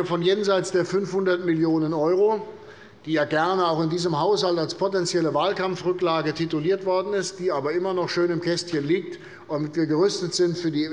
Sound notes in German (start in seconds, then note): none